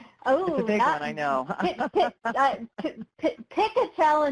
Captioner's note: laughs